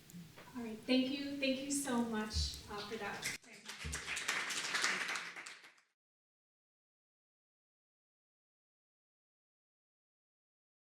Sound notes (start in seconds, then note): 3.2 applause